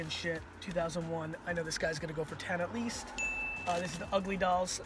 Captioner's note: bell dings